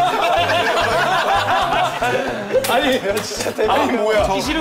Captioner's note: unable to breath laughing so hard hahahahahahaha